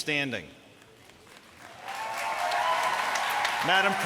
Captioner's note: applause